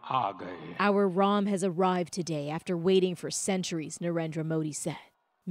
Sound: speaking alternate language

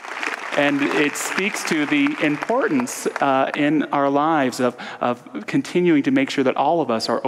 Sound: audience applause

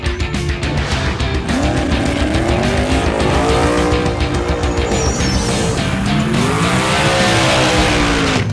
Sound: engine revving

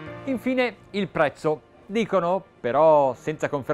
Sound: speaking Italian

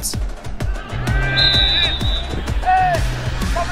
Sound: whistle

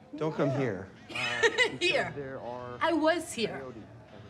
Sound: Maddie laughs

